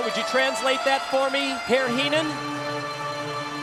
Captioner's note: crowd cheering